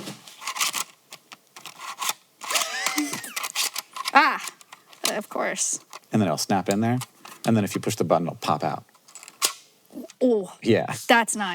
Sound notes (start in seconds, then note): 0.1 disk rattling; 2.5 Hank laughs; 9.3 disk snaps